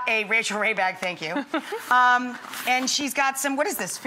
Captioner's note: laughs